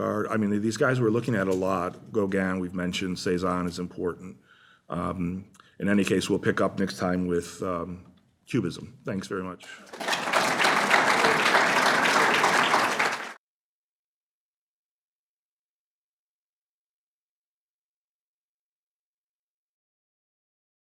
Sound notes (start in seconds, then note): 9.7 applause